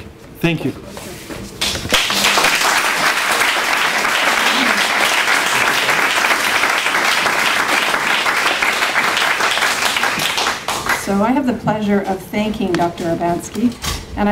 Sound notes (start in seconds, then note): 1.6 clapping